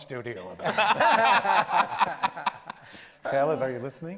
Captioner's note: panel laughs